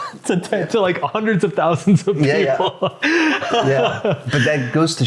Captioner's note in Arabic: يضحك